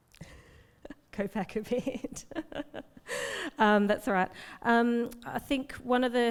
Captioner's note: laughs